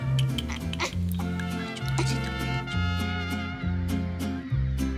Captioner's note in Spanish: Chasquidos bucales